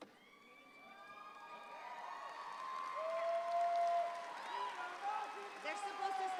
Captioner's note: audience screaming and cheering